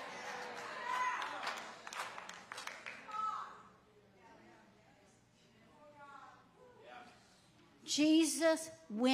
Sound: audience clapping

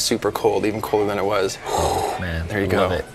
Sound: gasps

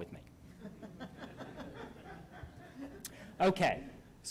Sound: laughter

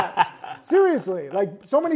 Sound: laughs

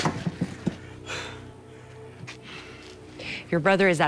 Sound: Pablo breathes heavily

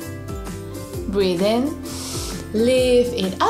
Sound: breathes in deeply

